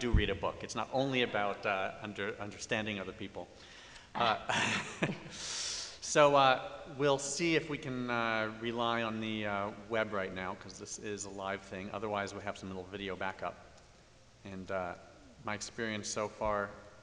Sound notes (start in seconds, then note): 4.4 laughter